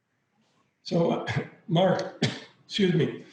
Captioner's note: coughs